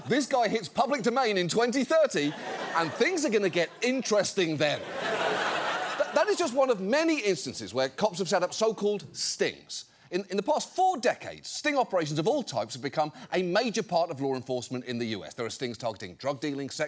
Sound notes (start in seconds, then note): 5.0 audience laughs